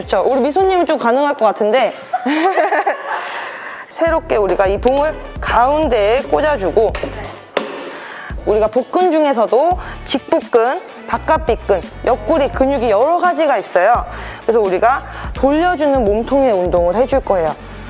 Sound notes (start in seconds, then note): 1.9 laughter